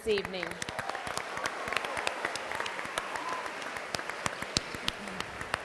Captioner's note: clapping and applause